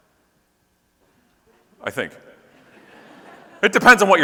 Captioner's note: audience laughing